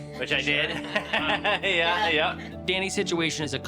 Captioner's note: laughter